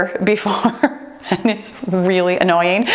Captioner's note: laughs